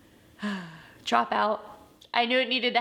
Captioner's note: sighs